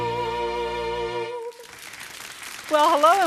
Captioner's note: people clapping